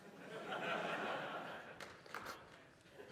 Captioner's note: laughter